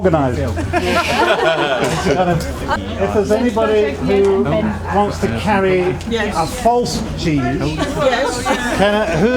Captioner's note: laughter